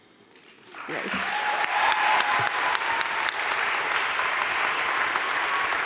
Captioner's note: audience cheering and applauding